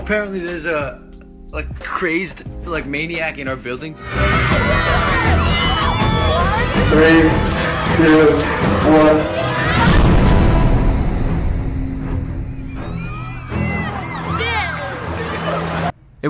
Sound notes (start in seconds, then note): 4.0 crowd screams; 9.8 shot fired; 12.5 crowd exclaims